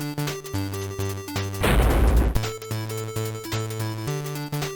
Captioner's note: thud